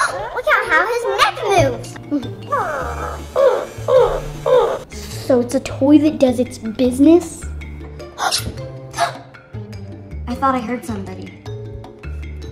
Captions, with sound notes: Look at how his neck moves! [flamingo grunting] So it's a toy that does its business? [kids gasping] I thought I heard somebody.